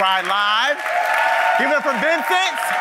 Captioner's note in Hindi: वाहवाही